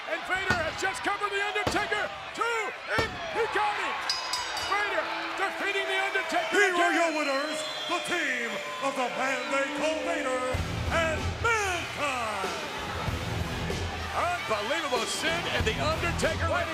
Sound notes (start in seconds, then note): 4.0 bell dings